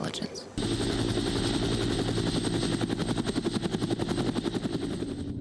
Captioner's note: helicopter blades whirring